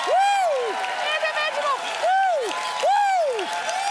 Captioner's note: cheers and applause